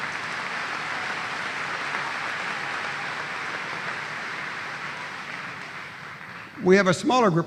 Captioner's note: applause